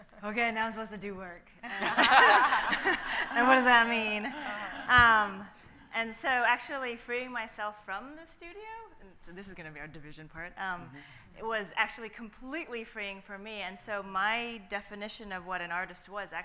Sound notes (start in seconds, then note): 1.7 laughs; 1.7 panel and audience laughing